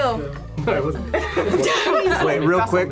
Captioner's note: group laughs